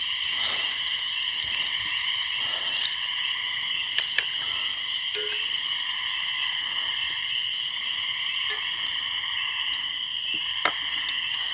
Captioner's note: night wilderness & frog sounds